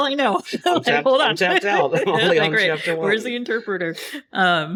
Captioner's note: laughs